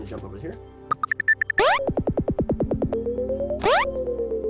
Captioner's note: switch beeping